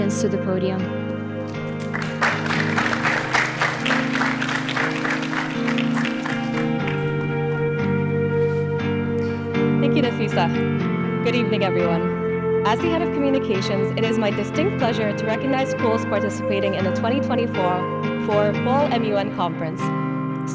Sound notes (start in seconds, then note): 1.4 audience applauding; 2.2 warm music continues